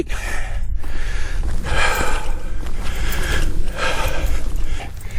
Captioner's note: huffing and puffing